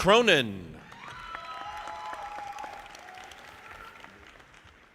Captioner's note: audience applauding